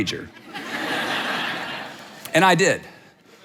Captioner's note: audience laughs